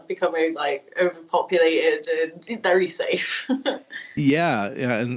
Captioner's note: small laugh